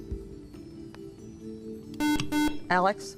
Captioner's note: buzzer